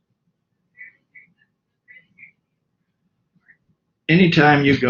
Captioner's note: radio noise